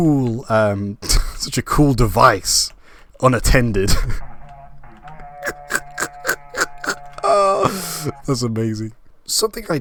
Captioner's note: horn Sound; laugh